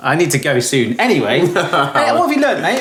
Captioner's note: chuckles